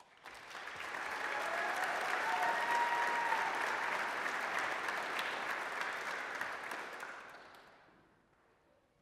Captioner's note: applause